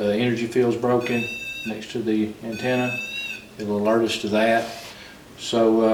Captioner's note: beep